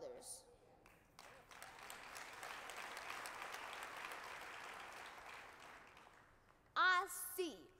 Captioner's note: applause